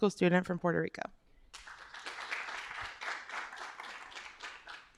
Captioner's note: applause